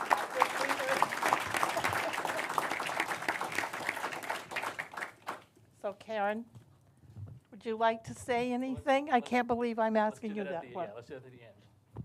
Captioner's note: applause